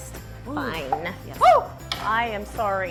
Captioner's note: yelps